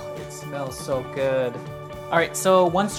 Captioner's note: none